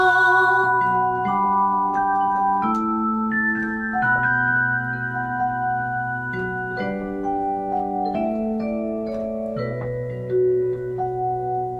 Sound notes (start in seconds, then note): none